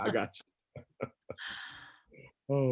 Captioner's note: laughs